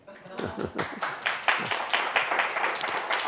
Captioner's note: applause